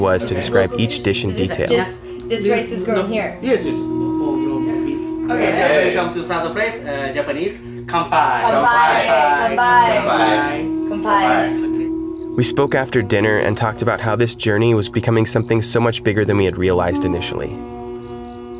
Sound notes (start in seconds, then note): 8.1 all speaking in Japanese